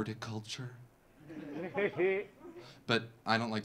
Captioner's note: audience laughing